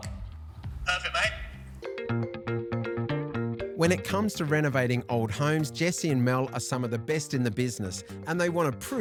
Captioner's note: voiceover